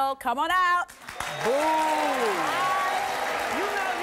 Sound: audience applause

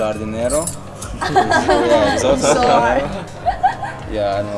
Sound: everyone giggling

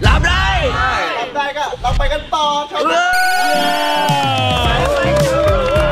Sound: cheering

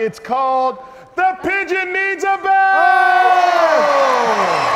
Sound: audience cheering

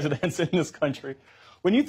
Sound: laughter

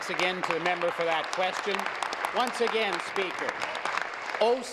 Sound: applause

